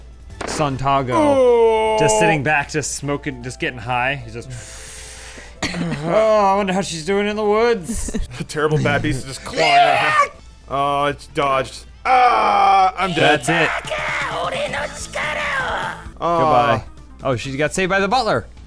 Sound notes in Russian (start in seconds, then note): 4.6 вдыхает; 9.4 истошно вопит